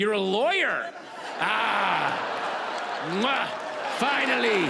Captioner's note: audience laughs